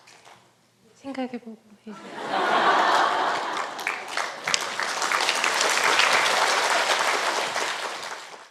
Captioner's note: audience Laughter